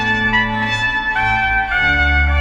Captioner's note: none